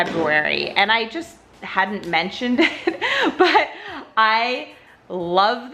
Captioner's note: laughs